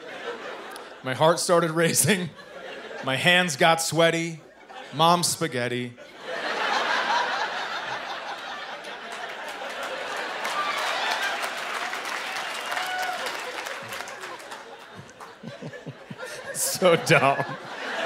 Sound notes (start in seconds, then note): 6.0 laughter; 8.8 applause; 16.0 chuckling